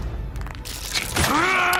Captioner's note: The Immortal roaring; knuckles cracking; The Immortal yelling